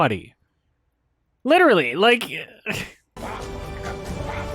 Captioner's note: slight chuckle